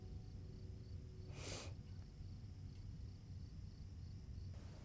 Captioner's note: insects chirping